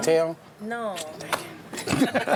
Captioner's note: laughs